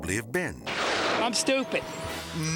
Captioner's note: thunder clashing